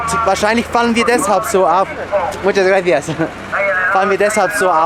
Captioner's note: in Spanish